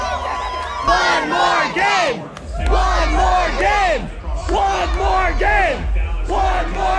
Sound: crowd

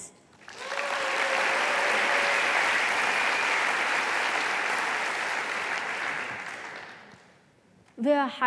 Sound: applause

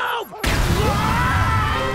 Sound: screaming

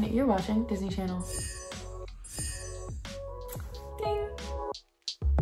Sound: bells twinkling; upbeat music

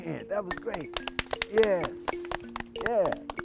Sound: clapping

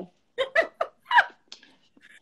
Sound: laughs

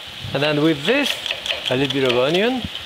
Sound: knife taps

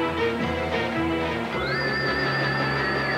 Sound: chirping

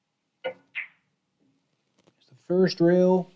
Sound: pool balls tapping

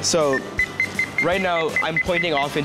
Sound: low pitch beeps

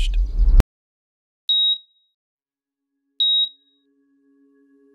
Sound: device beeping

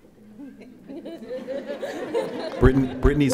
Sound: audience laughing

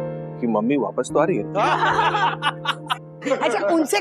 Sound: laughing

